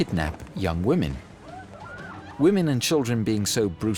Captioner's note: women screaming